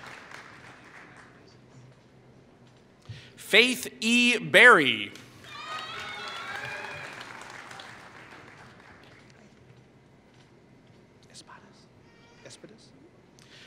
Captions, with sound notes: Faith E. Barry [Applause]